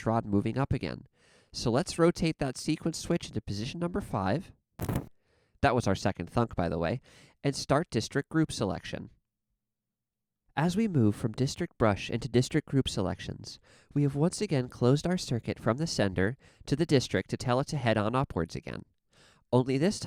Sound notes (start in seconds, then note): 4.8 thhip